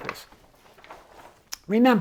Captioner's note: paper crinkling